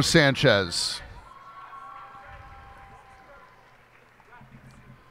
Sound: cheers and applause

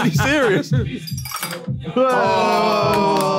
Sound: glasses clinking; all cheering

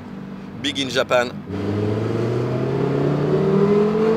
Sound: engine roaring

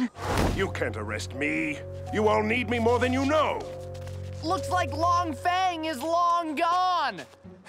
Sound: none

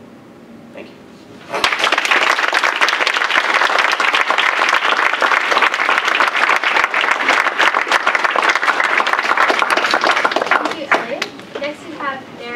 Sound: applause

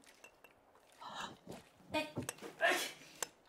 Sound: JENNY gasps; GEALACH grunting with jars

